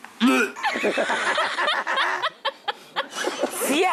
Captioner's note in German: Gelächter